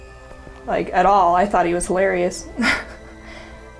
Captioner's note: laughs